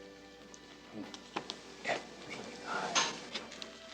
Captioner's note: whispers